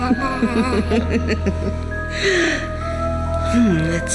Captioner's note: laughing